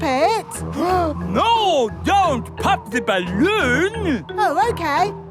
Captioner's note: gasps